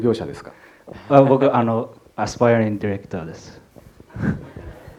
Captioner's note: laughter